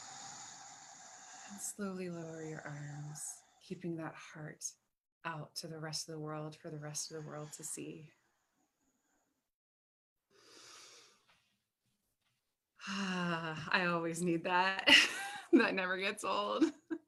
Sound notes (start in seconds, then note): 14.6 laughs